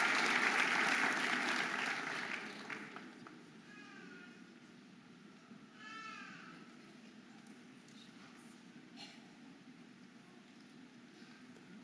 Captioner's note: audience applauding and cheering